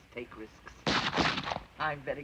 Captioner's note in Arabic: طلقات نارية